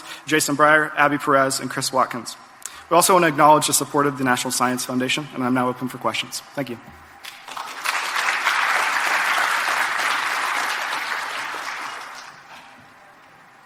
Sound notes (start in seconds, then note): 7.2 audience claps